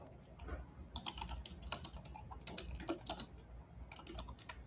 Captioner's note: keyboard clacking